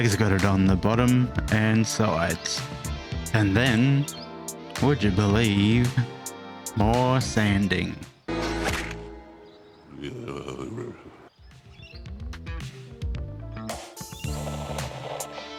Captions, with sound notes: got it on the bottom and sides. And then would you believe more sanding? [Defeated rumbling]